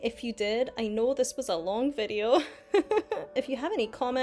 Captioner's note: laughs